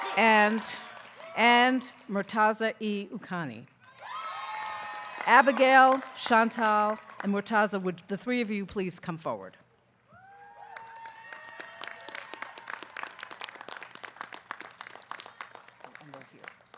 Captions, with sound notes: and Mortaza E Ucani. Abigail, Chantelle and Mortaza, would the three of you please come forward? (audience cheering)